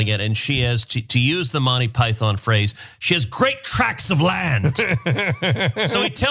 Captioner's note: laugh